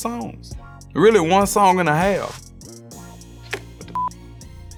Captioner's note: beep